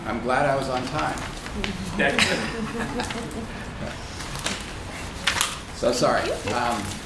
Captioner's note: laughter